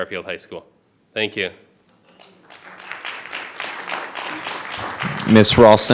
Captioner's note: audience applauding